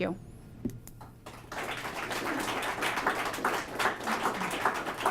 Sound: applause

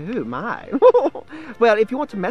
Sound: laughs

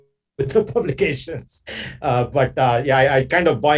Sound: laughs

